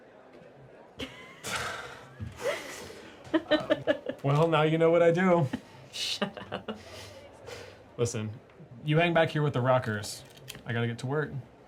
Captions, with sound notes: (crowd indistinctly chatting) (Amana and Tony laugh) - Well, now you know what I do. - Shut up. - Listen, you hang back here with the rockers. I got to get to work.